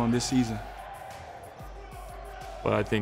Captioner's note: players shouting